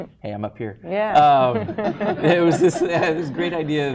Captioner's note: laughter